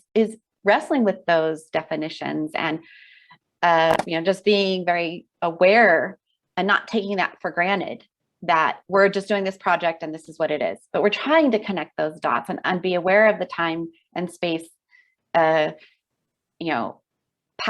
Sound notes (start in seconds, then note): none